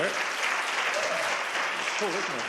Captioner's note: applause